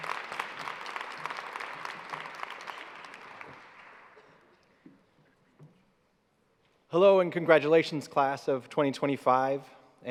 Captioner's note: applause